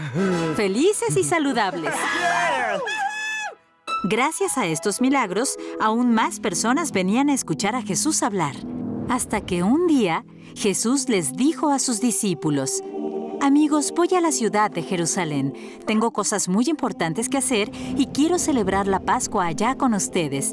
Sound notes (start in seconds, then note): 1.7 cheering